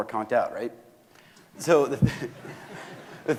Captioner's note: audience laughing